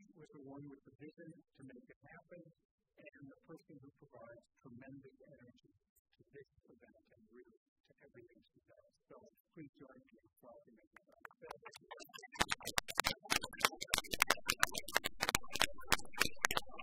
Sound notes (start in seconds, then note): 12.3 applause